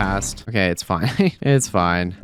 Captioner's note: laughs